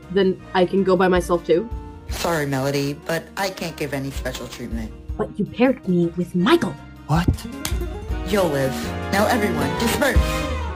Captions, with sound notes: Then... I can go by myself too? Sorry Melody, but I can't give any special treatment. *whisper* But, you paired me with MICHAEL! *whisper* What? You'll live. Now everyone, DISPERSE!